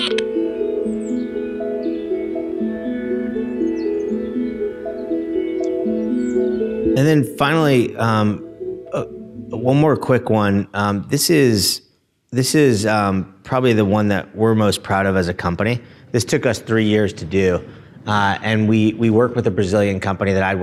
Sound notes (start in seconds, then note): 1.2 bird calls